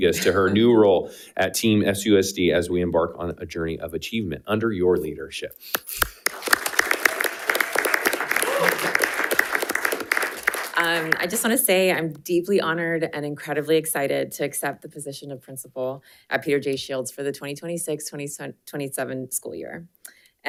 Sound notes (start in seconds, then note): 6.0 panelists cheering and applauding